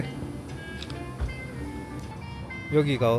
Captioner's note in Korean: 찰칵